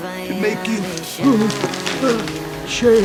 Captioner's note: pills rattle